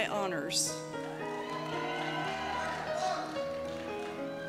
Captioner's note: cheers